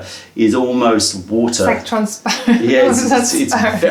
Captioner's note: laughter